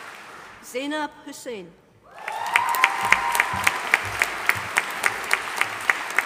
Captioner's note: audience applauding